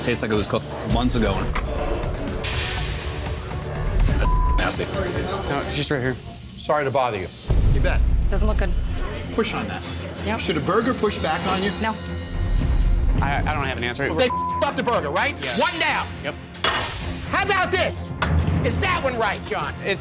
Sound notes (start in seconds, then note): 4.1 beep; 14.2 beep; 16.8 plate clanks